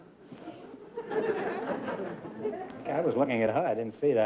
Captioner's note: laughter